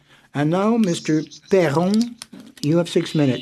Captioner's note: speaking FRENCH